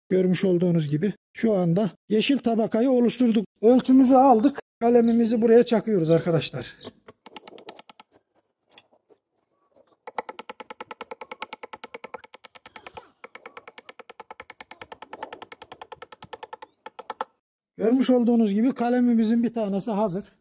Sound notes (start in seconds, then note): 7.1 click, click, click, click, click, sound while hammering the cutting ax